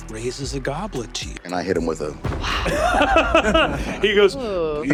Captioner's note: thunder booms